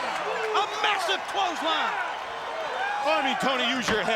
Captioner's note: crowd clamoring